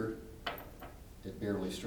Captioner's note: weight taps lightly on table